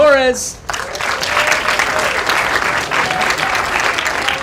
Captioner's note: applause